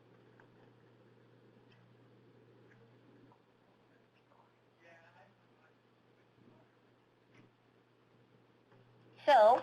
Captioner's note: silence